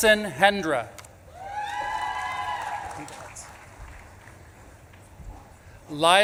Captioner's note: audience claps and cheers